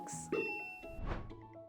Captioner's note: bell dings; transition whooshes